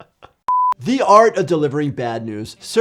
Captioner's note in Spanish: riendo; pitido de pantalla